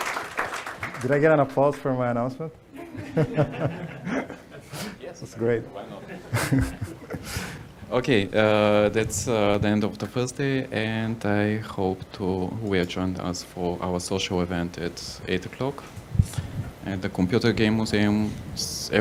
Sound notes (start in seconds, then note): 2.8 audience laughs; 6.0 laughs